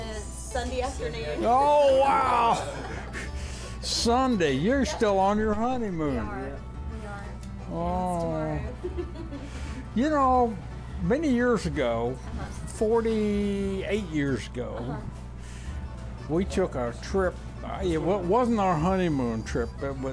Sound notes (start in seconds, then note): 1.4 laughing; 8.6 laughing